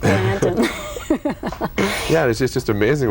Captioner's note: laughter